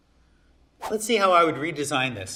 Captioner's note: air whooshing